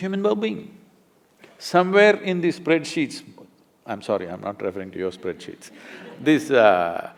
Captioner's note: laughter